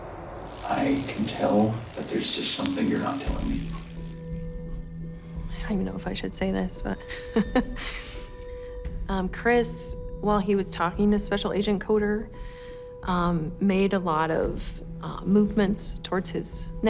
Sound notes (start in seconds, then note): 7.3 laughs